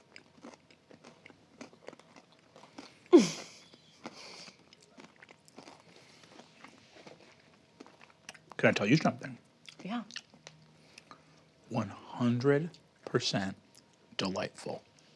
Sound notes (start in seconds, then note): 3.1 chuckles